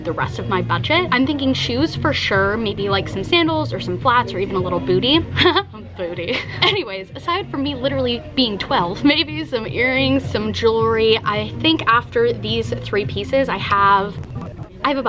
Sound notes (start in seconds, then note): 5.3 laughs